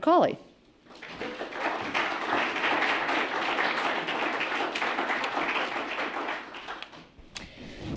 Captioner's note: applause